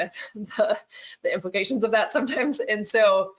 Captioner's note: chuckles